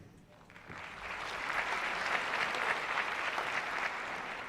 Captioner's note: applause